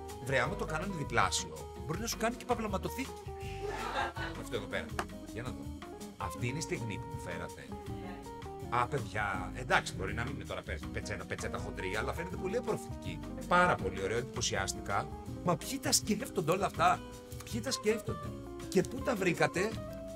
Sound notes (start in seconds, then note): 3.6 laughs